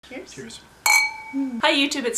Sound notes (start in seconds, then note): 0.8 clink